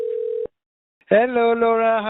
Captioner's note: phone ringing